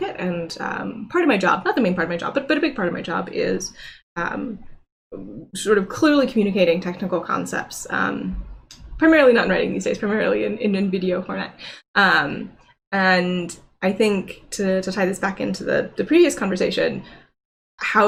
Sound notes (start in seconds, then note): none